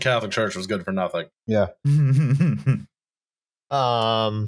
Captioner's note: chuckles